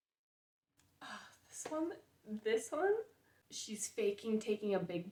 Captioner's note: sigh